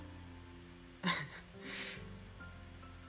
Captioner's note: chuckles